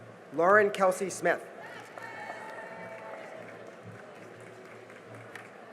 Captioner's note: cheering and applause